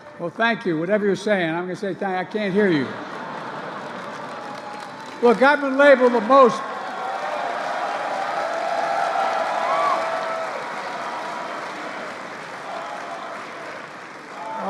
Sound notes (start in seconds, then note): 3.6 laughter and applause; 6.3 applause